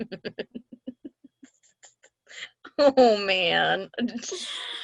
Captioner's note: giggling